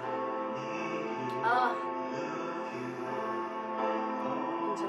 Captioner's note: drinking and moaning